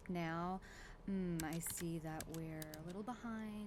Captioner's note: keyboard and mouse clicking